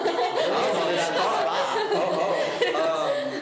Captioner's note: laughs